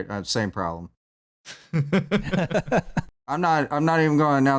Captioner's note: laughter